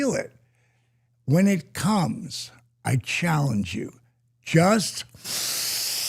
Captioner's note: breathes deeply